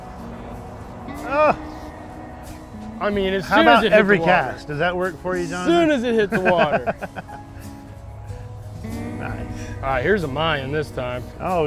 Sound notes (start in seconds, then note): 7.5 laughing